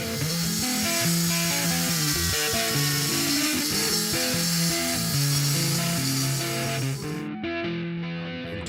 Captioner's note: sanding